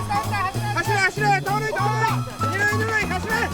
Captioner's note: japanese Language